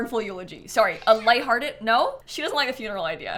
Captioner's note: snap meows